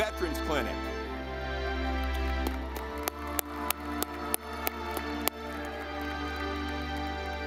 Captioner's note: ceremonious music; audience clapping